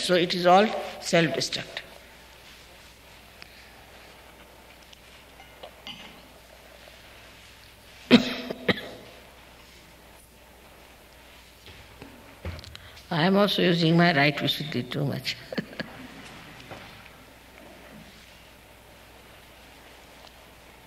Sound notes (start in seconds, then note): 8.0 coughs